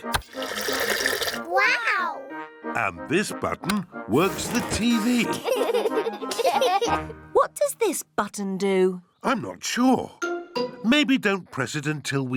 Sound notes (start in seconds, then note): 5.1 laughter